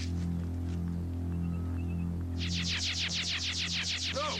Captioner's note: transmitter whirring